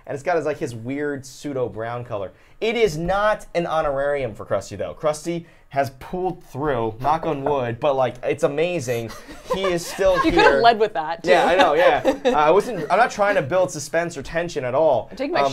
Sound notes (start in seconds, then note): 7.2 knocks table; 11.5 laughs